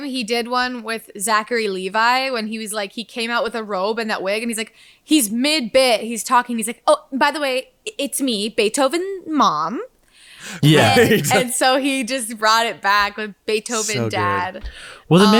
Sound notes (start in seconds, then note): 10.5 everyone laughing